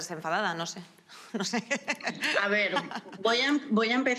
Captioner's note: laughingh